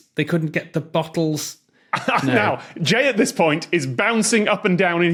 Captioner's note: laughs